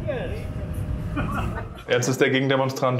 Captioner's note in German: Lachen